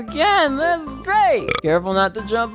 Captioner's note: burp